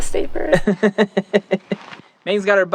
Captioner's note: confused but agreeing laughter